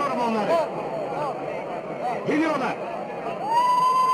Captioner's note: people chattering; people ululating